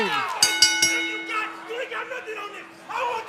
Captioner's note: bell ringing